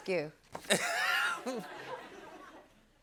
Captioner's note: laughter